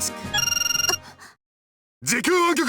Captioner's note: gasp